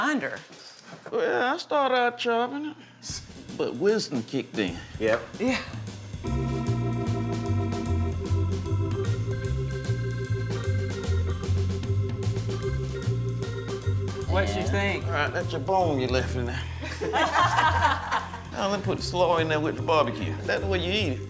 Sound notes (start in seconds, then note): 6.6 upbeat organ music; 16.8 laughing